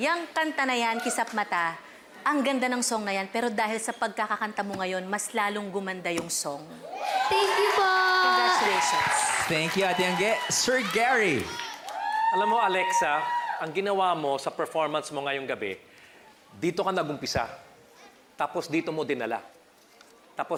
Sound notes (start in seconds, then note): 6.8 crowd screams